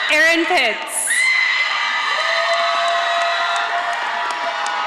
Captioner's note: audience applauding